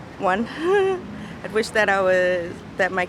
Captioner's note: laughing